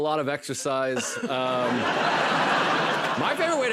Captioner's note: laughter